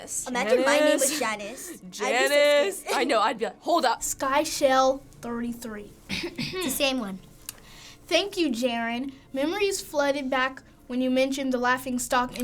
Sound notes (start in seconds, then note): 6.1 clearing throat